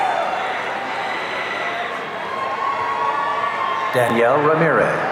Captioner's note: audience cheering